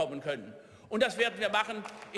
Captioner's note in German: Beifall